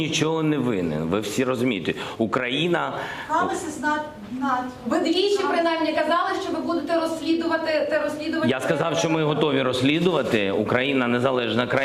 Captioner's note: speaking foreign language